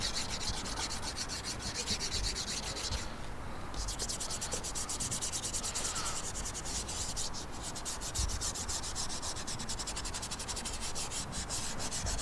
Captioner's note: sketching sounds